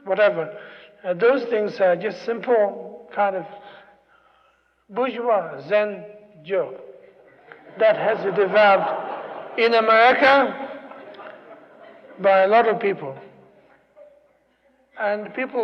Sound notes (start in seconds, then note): 7.1 laughter